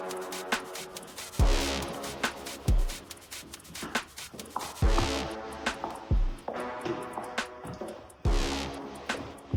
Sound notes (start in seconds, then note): 4.8 feet clopping